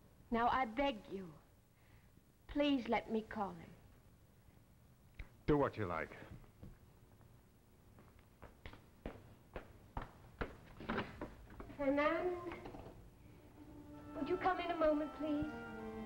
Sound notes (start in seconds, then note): 7.8 footsteps; 10.8 door opens